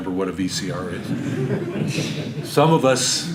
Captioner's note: audience laughter